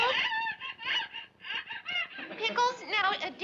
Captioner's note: pickles crying on phone